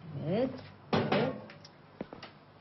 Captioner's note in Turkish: Kapı çalıyor